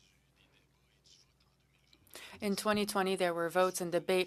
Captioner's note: speaking French